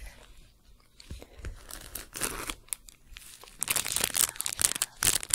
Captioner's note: louder crinkling